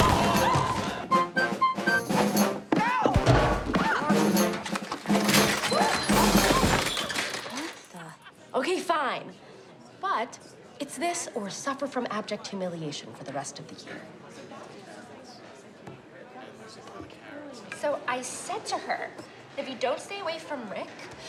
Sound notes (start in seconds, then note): 0.3 squeals; 2.7 yells; 4.0 rattling; 4.8 banging